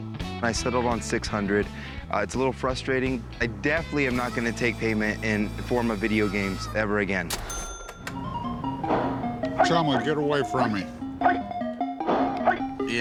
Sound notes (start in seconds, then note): 8.3 videogame sounds